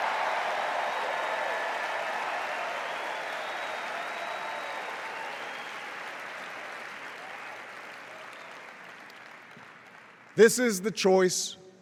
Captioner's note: cheers and applause